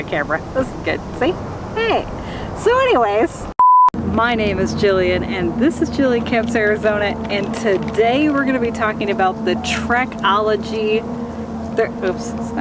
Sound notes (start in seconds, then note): 3.6 beep